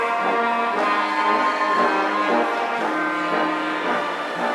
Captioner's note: audience cheering